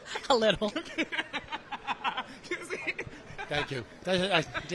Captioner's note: laughing